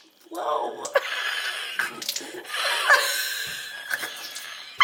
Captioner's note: laughing